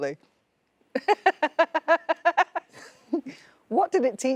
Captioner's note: Sarah laughing